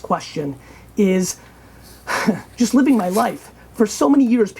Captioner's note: laughing